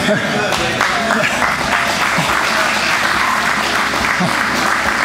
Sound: spectators applauding

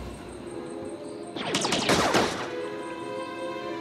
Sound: Partisans and Empire trade blaster fire

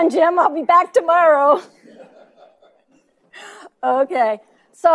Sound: laughing

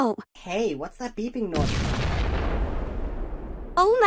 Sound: explosion

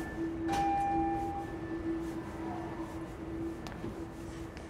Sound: subway door chime

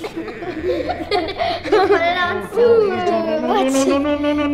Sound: laughs

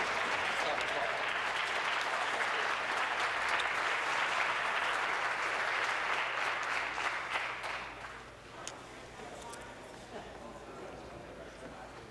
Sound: applause

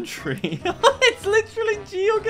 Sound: laughs

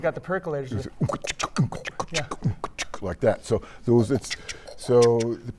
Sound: beatboxing

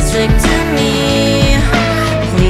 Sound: meow!

